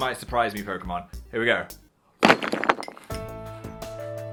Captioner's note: objects clinks; dramatic music